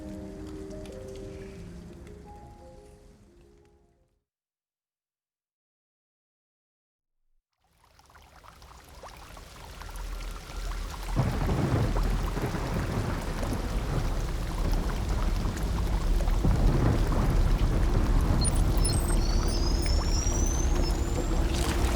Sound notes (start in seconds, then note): 0.0 fades; 8.0 raindrops pattering; 11.0 thunder crashing; 18.2 beeping, whirring